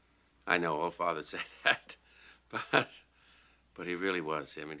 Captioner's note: chuckles